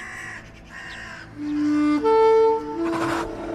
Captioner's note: birds squawking